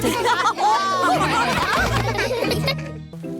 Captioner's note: laughter